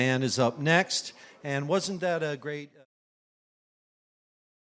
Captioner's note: voice fades out